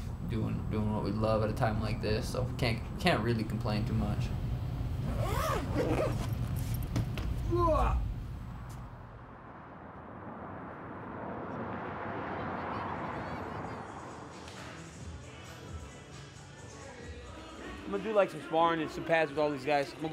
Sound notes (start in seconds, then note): 5.0 zipper; 7.3 grunt; 8.0 traffic; 14.7 radio playing